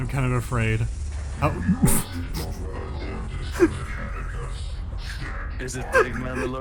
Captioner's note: chuckles and wheezes